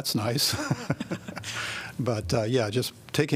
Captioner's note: laughter